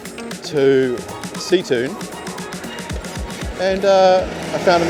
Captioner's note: aah